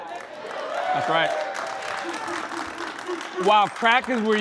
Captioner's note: cheering and applause